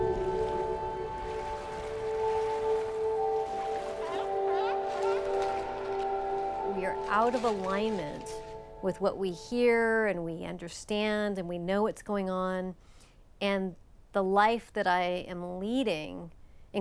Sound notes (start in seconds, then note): 4.2 seal barking